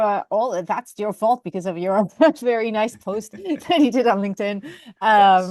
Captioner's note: chuckles